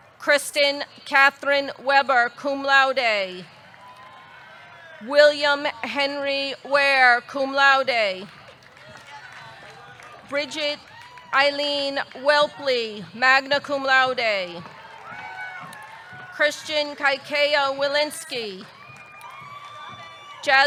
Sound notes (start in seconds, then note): 3.6 audience cheering; 8.1 audience clapping; 8.3 audience cheering; 14.4 audience clapping; 18.2 audience cheering; 18.6 audience clapping